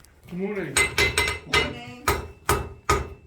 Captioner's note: sound of hammer on metal